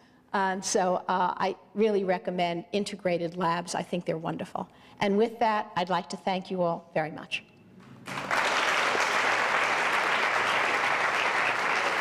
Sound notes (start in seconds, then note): 7.9 audience applause